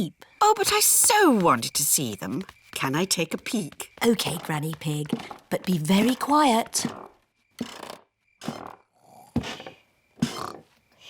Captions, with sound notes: Oh, but I so wanted to see them. -Can I take a peek? -Okay, Granny Pig. -But be very quiet. -(STAIRS CREAK SOFTLY) (BOTH SNORE)